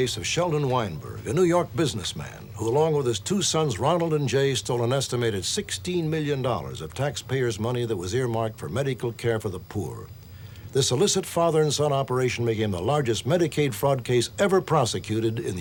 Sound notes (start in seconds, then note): none